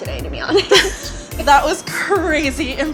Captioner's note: laughs